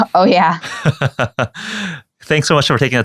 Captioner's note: laughing